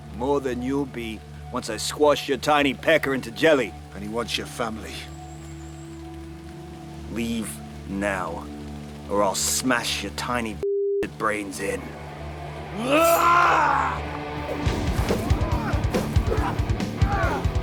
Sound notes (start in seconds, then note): 12.9 yelling; 14.7 dramatic music; 17.4 both moaning